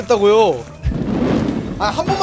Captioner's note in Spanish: Fwoosh